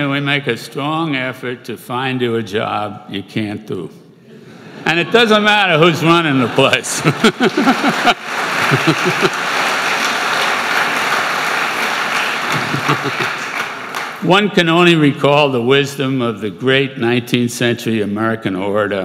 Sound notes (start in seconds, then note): 7.0 applause